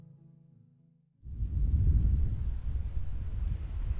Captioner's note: wind whooshing